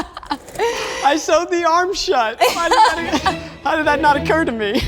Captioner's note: laughs